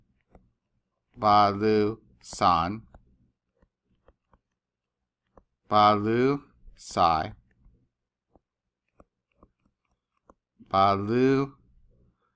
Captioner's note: speaking greek